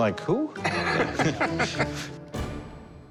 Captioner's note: both laugh